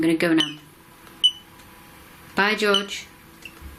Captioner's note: beeps twice